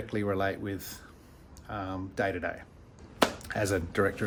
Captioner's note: hand clap